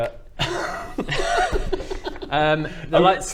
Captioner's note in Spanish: risas